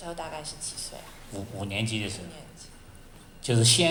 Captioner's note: Mandarin